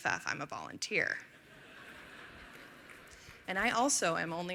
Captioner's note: laughter